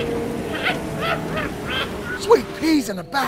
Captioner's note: alien laughing